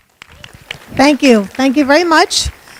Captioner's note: audience applause